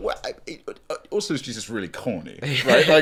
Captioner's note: stuttering